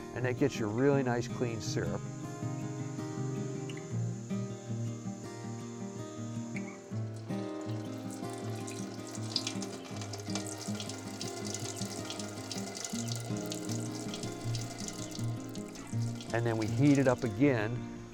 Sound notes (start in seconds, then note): 2.0 gentle music; 6.9 syrup pouring; 13.3 gentle music continues